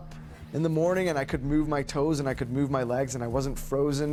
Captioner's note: voiceover